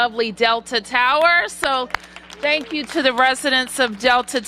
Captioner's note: applause